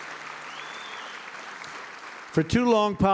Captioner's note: applause